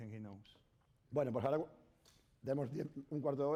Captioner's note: speaking spanish